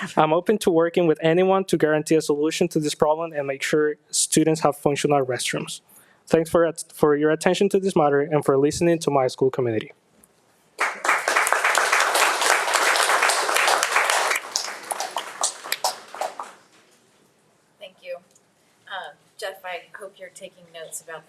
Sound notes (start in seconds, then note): 10.8 audience applauding